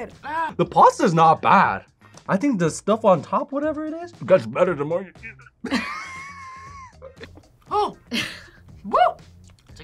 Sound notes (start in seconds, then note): 5.1 laughs; 5.4 struggles